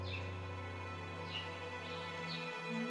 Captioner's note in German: Vogelgezwitscher